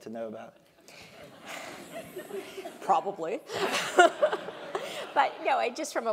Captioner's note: laugh